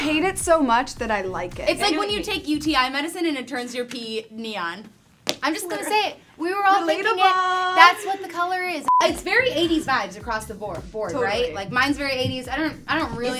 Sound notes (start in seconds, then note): 4.9 laughs; 8.8 beep